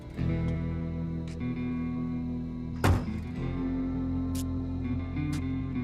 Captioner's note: feet scuffing